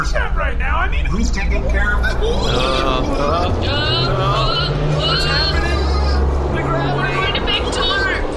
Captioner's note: Dar, C-53 and Pleck gasp in surprise